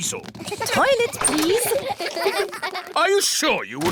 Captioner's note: kids giggling